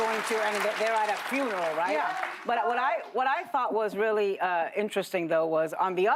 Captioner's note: applause